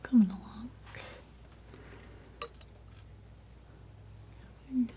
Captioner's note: scratching